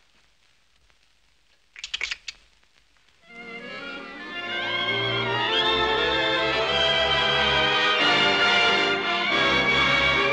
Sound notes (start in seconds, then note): 1.7 clicking tongues